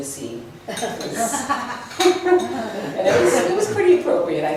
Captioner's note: laughs